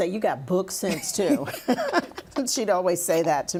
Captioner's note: laughing